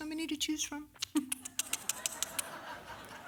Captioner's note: kissing